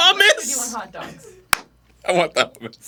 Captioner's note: single clap of applause